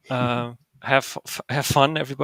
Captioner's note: chuckles